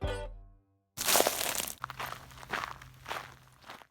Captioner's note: boots crunching